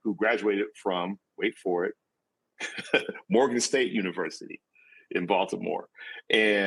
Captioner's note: laughs